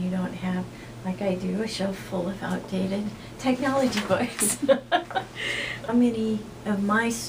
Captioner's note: laughs